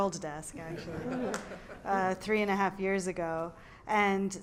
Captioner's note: laugh